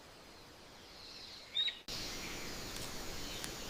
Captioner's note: leaves rustling in the wind